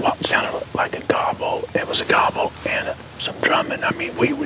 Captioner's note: whispering